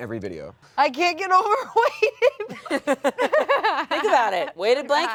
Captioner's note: laughs